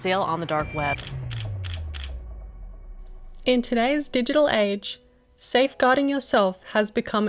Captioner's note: camera Shutter Clicks